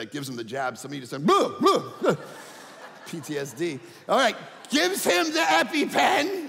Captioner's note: audience laughing